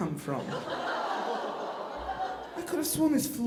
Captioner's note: audience laughing